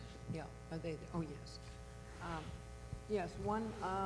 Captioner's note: voiceover